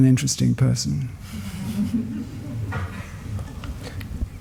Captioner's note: laughter